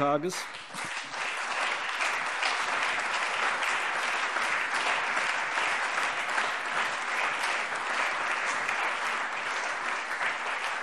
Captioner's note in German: Allgemeiner anhaltender Beifall